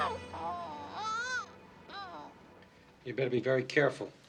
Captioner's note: Kate groaning